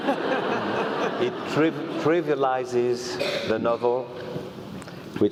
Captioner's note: laugh